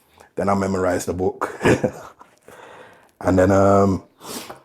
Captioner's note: chuckling